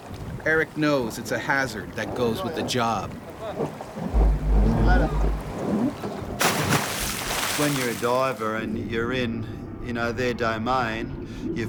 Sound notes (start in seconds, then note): 6.2 splash